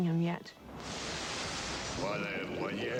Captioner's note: torch sizzles; Christopher Lee doing incantation in a Mystical Language That Is Not English